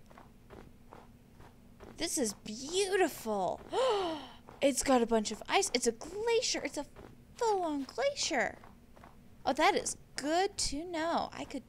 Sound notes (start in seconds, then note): 3.7 gasp